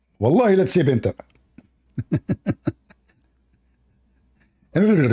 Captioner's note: Ketawa